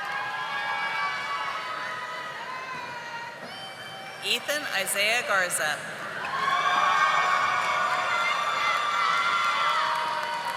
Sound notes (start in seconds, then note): 1.2 audience applauding